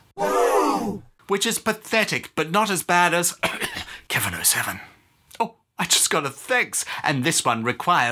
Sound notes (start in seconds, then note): 0.8 gasping; 3.4 coughing